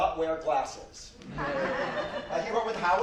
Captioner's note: audience laughs